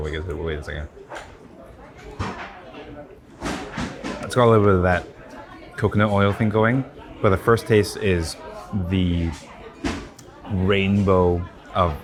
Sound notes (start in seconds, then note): 1.2 people chattering continues; 3.4 item thuds